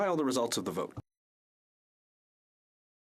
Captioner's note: speaking French